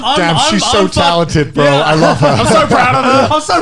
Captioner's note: laughs